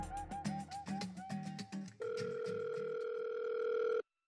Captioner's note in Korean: 휴대전화 통화 연결음